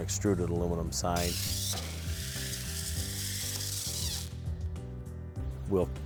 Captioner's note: whirring